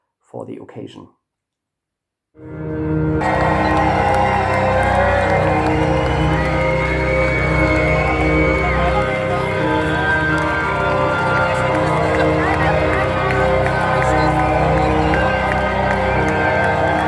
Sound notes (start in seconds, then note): 3.1 applause, crowd noise, creepy organ